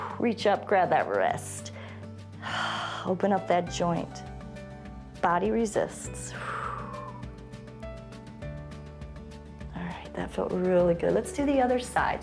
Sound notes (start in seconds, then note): 2.3 exhales; 6.2 exhales